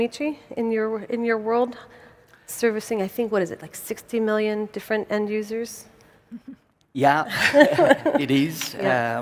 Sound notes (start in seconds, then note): 7.3 laugh